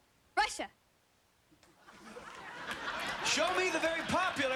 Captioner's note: laughter